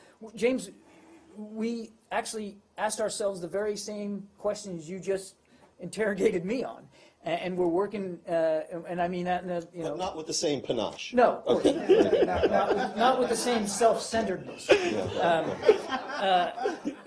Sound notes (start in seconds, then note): 11.5 laughter; 16.8 laughter